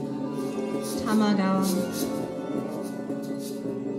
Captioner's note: ethereal music; reciting